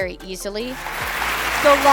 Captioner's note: crowd applauding